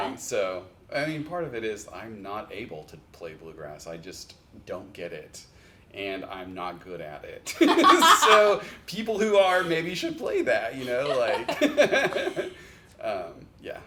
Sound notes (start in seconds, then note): 7.5 laugh; 10.8 chuckle